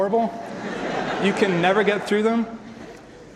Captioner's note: audience laughter